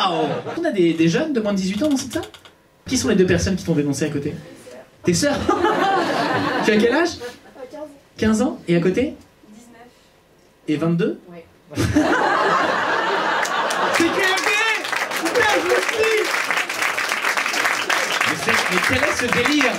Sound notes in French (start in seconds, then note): 5.3 rires public; 11.8 rires public; 15.9 applaus